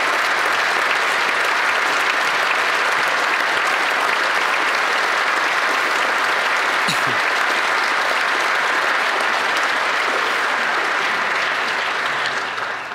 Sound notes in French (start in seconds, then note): 0.0 applaudissements